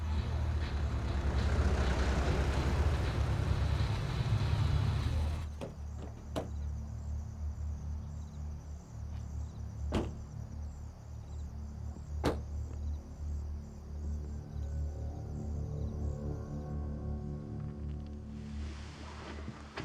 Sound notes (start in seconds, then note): 0.0 car engine rumbling; 5.7 car door clicks; 8.0 soft suspenseful music; 10.0 car doors thud; 14.9 suspenseful music